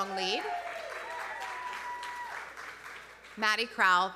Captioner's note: audience cheering; audience applauding